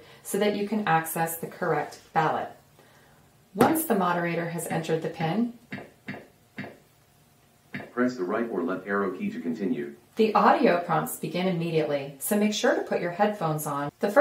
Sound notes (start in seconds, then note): 8.0 voiceover